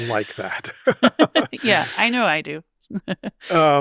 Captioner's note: both laughing